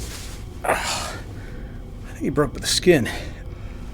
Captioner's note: Helden groans